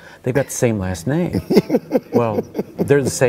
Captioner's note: laughing